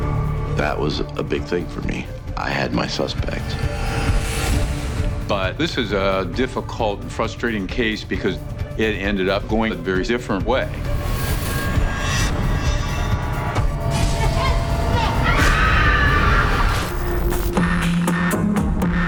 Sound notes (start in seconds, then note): 13.8 yelling, screaming